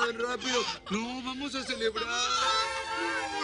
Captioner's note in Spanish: Llanto de la bebé